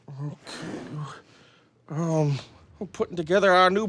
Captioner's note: muttering